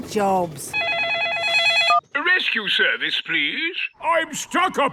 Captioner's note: phone ringing